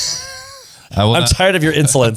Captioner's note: laughs